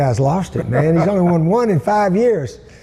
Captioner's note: laughs